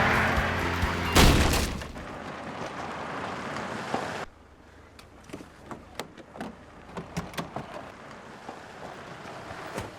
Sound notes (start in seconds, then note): 0.0 gate crashing; 0.0 tires squealing; 1.0 car crashes; 2.8 engine rumbling